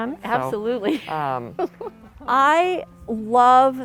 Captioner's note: laughs